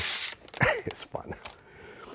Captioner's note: laughs